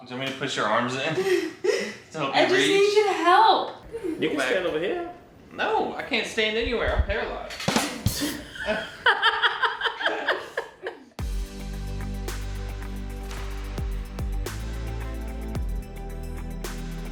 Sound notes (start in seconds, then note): 10.7 laughing